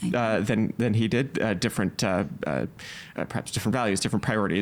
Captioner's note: stammering